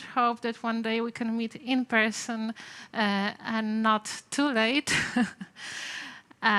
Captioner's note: laughter